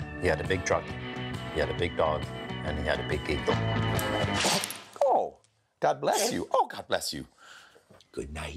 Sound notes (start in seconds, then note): 3.9 dog sneezing